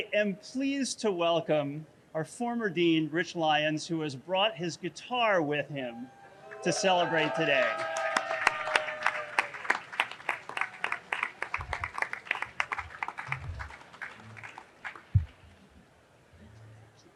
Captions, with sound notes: I am pleased to welcome our former dean, Rich Lyons, who has brought his guitar with him to celebrate today. (audience cheering)